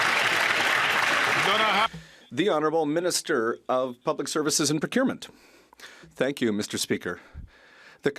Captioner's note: some Applause